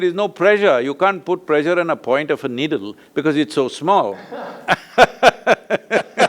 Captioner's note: both laugh